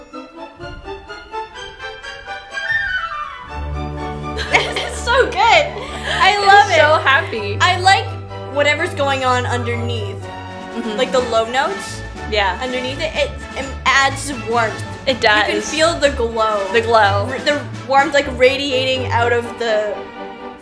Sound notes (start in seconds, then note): 3.5 picnic music; 4.4 laughs